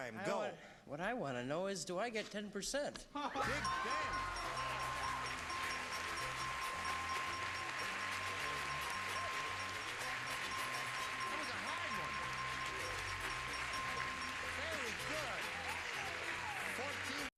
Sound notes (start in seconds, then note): 7.2 applause